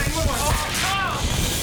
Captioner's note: both yelling